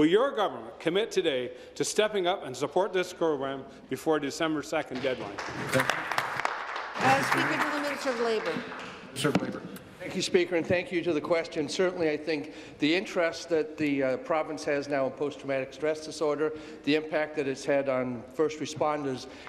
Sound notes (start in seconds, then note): 9.5 applause